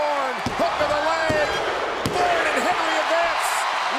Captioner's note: hand pounding